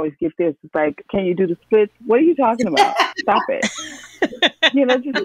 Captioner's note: laughter